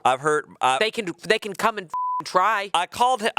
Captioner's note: beep